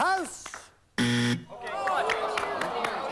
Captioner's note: buzz; crowd groans